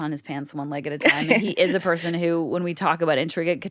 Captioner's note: laughs